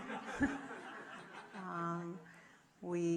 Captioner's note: audience laughing